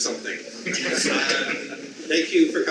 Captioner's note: audience laughs